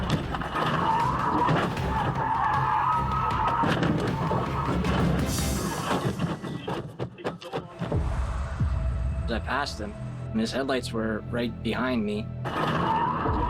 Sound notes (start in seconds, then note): 0.0 tires squeal; 0.9 crash